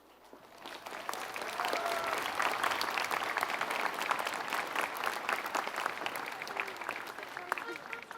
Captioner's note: applause